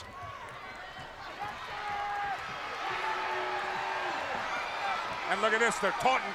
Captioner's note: crowd cheering